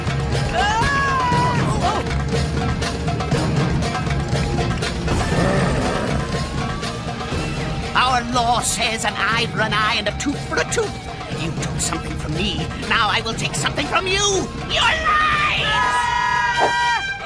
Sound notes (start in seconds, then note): 0.5 yelling; 5.1 growling; 15.7 yelling